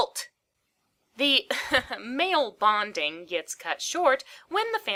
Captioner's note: laughs